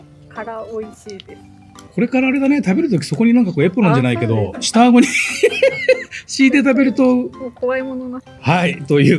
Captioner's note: laughs